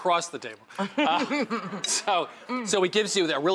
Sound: laughter

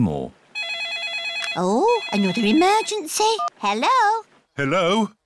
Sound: phone rings

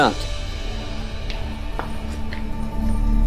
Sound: footsteps

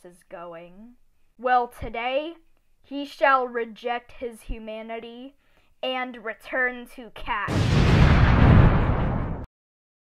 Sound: Killer Queen explosion

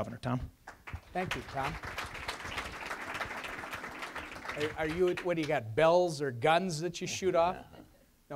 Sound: applause

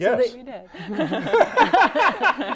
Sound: laughing

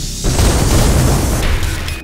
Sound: explosion

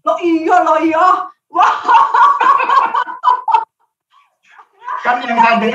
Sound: laughing

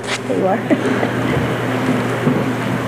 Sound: laughter

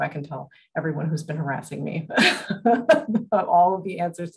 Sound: laughs

